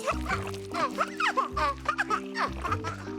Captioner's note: giggling